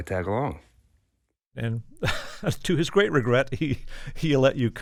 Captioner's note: laughter